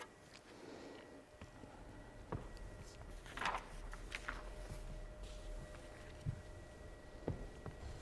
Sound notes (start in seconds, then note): 2.5 pages rustling